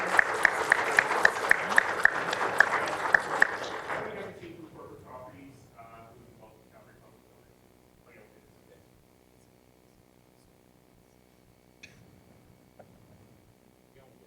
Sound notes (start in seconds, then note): 1.5 laughter; 2.3 applause